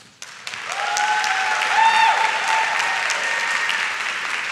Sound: audience shouts and claps

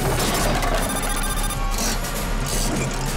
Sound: beeping

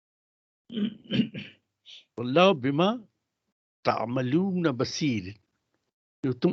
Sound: recites arabic

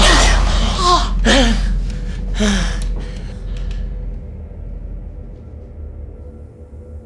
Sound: suspenseful music; both panting

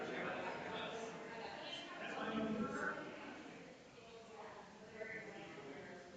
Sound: people chattering distantly continues

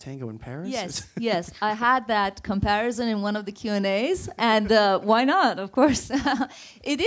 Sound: laughs

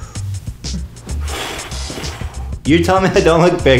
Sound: exhale

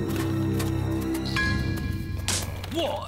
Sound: snap

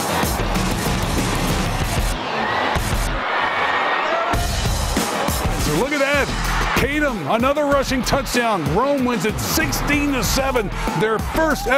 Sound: cheers and applause

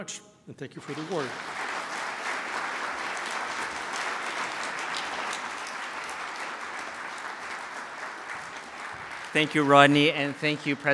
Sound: applause

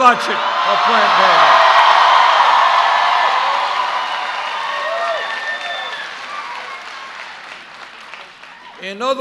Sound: cheers

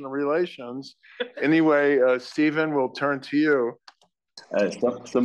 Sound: laugh

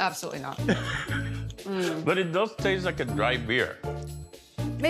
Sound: laughing

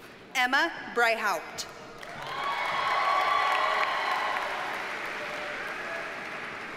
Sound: audience cheers and applauds

